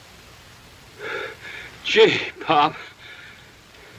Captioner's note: sigh